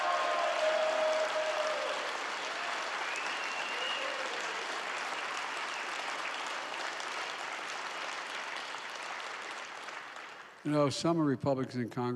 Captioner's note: applause